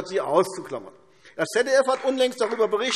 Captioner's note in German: Beifall AfD